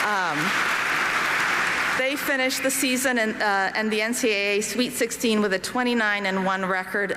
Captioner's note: applause